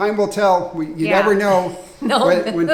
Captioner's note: laughs